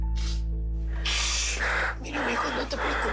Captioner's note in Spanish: Sollozos